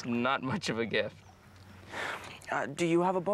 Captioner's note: sighs